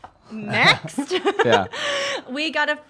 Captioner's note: laughs